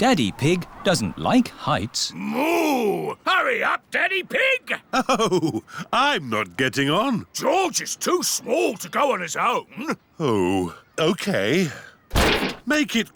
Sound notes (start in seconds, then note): 4.8 chuckling